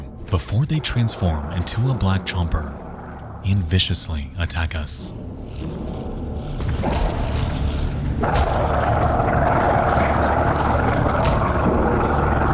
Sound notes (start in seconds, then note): 5.4 chomper snarling; 5.9 punches thudding